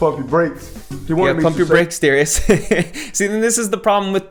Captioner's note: laughs